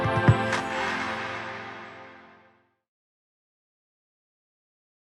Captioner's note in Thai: ปรบมือ